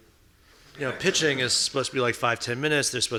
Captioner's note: audience laughing